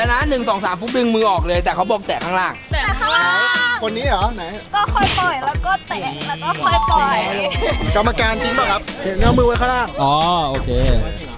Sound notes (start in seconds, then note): 7.5 chuckles